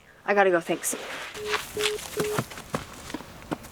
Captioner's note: line beeping